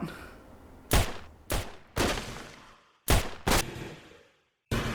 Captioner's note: guns banging